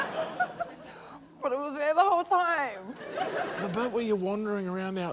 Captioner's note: laughter